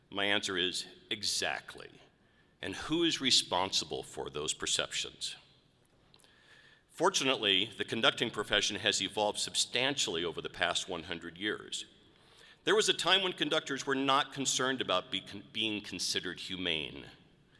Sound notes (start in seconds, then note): none